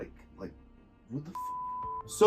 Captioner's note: beep